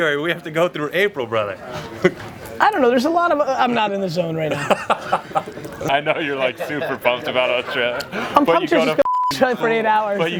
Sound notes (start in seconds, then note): 4.5 laughs